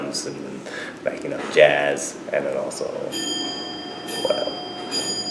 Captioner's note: ringing in the background